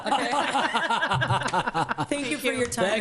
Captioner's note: laughs